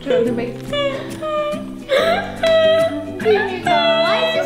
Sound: crying

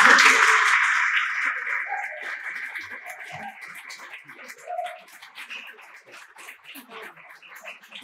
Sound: applause

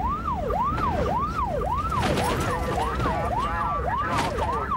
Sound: siren

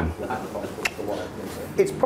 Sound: clicking

